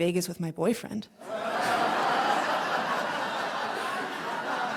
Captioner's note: crowd laughs